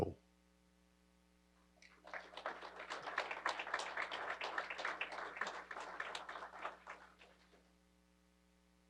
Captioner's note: applause